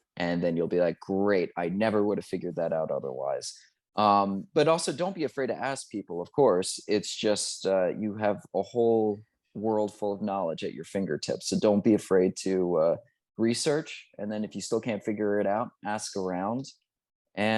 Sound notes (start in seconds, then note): none